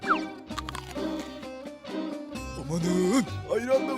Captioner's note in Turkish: Çiğneme sesi